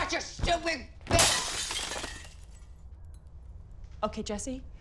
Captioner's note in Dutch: objecten breken